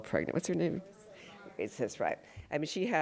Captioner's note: crowd murmurs